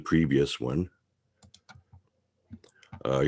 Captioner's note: mouse clicking